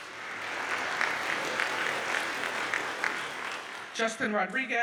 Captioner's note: audience cheers and applauds